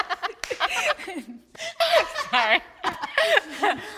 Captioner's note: everyone laughing amusingly